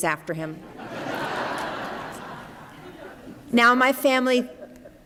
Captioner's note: laughter